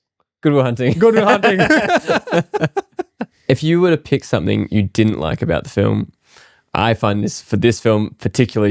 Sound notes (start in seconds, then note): 0.9 laughing